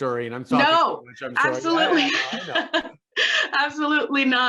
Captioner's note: laughs